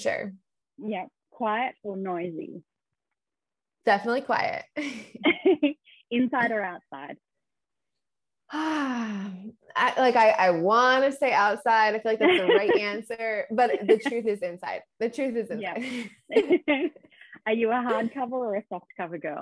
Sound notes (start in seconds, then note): 4.9 chuckles